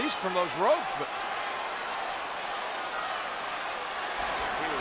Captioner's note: applause